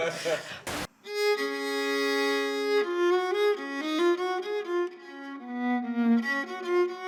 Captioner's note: panellists groaning, laughing